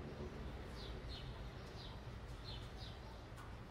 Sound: birds chirping

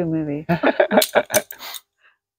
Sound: laughing

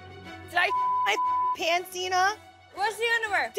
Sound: beep

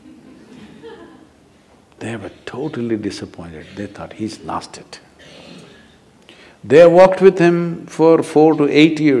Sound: laughter

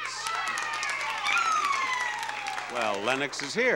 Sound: applause

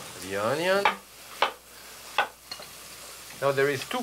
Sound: knife chopping

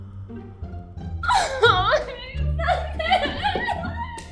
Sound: Persephone storms of whining

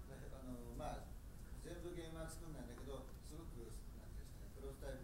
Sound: speaking in foreign language

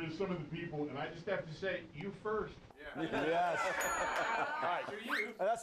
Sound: laughter; bell rings

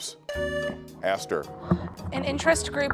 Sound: buzzer beeps

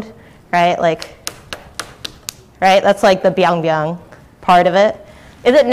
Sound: slapping noise

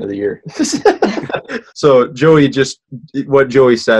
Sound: laughs

